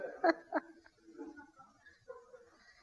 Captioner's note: laughter